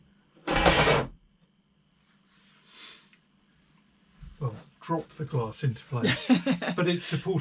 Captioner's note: clatter